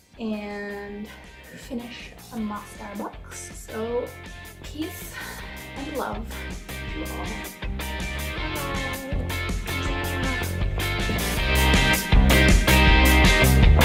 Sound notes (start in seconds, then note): 11.0 blows kiss and chuckles; 12.2 upbeat music plays